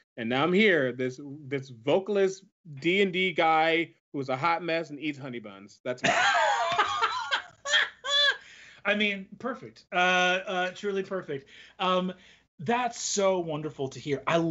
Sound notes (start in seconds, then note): 6.0 laughs